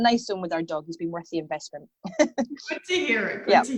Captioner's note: chuckles